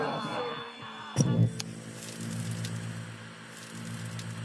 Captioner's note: click, TV static